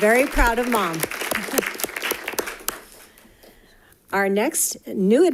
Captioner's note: audience applauding